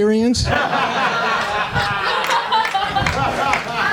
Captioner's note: laughter